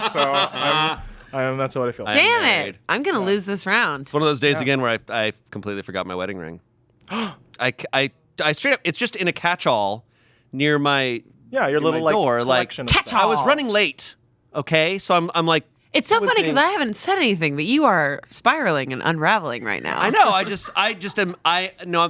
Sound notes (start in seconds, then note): 0.0 laughing; 7.0 gasping